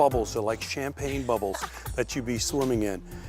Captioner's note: laughs